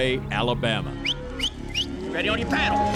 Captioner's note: whistling